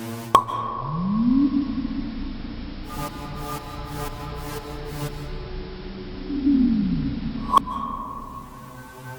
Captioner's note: Aqilah shooting lasers